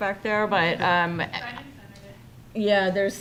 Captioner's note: female speaking off microphone